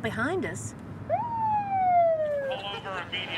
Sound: siren blaring

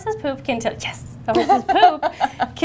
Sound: laughs

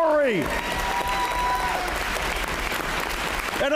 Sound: applause

